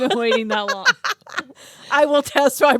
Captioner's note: both laughing